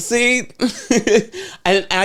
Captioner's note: laughs